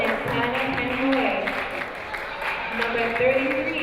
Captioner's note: applauding